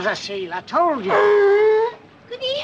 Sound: bark

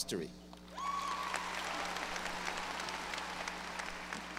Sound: audience applause

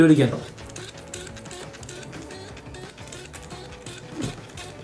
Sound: water sprayer spraying

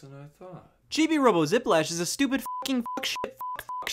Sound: beep

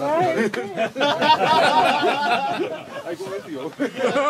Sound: laughter

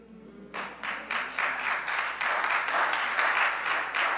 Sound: audience applauds

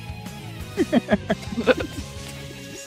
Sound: laughter

